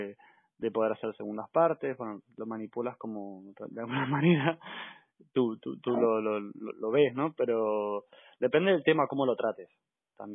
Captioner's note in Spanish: risas